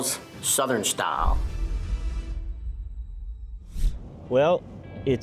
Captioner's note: logo thuds